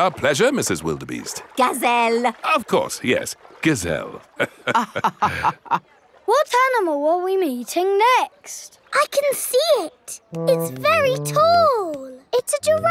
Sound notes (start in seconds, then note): 4.4 both laughing